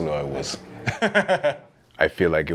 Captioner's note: laughs